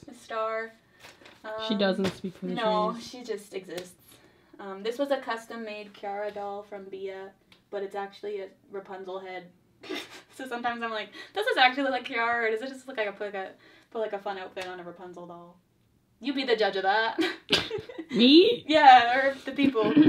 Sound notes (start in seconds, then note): 9.8 laughs; 17.2 both laugh; 20.0 clears throat